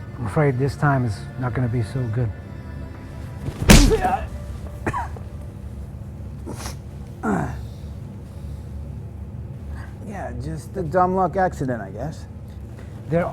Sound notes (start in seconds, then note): 3.6 punch smacking; 3.7 David grunting; 4.8 David coughing; 7.4 David grunting